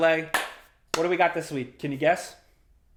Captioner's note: claps